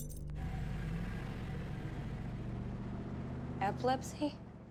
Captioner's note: ambulance rumbling